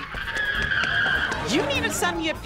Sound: screaming

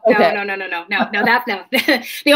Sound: chuckles

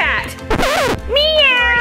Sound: record scratches

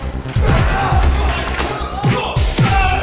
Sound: suspenseful music playing; men grunting

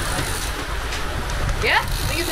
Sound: wind blowing

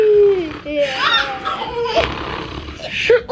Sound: snoring

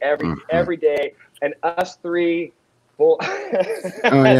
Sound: laughs

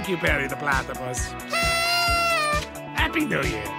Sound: Doofenshmirtz blows the same party horn

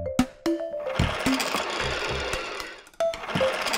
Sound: toy buzzing

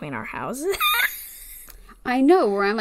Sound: laughs

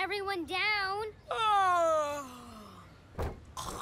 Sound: fake yawning

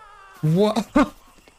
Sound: small giggle

